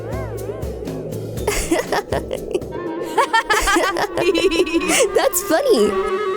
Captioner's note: laughter